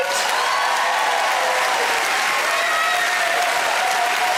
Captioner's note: audience cheering